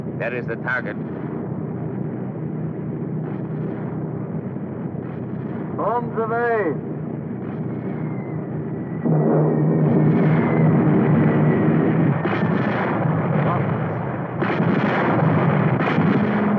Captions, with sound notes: - There is the target. - Bombs away! (explosion booming) - They're bombing us. (guns firing)